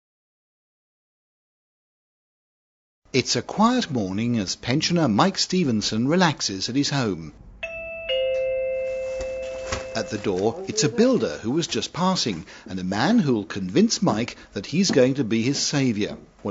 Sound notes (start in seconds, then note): 7.6 doorbell